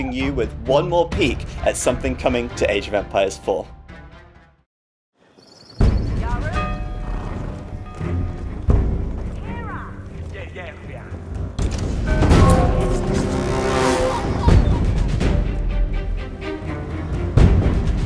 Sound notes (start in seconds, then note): 6.2 horse snorting; 9.2 townspeople chattering